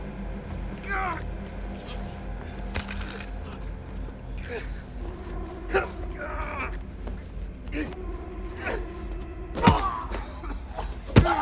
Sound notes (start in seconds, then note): 2.7 gun clattering; 3.6 man grunting; 3.6 tense music